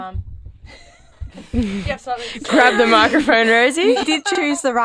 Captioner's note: laughing